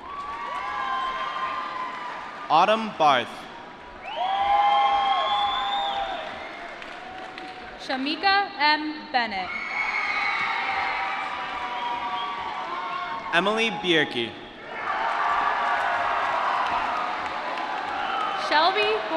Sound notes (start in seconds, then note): 0.0 applause; 10.1 applause; 14.9 applause